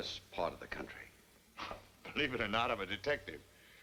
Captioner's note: chuckles